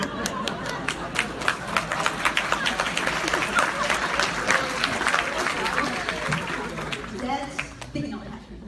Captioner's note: applause